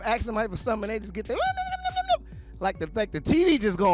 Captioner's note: yipping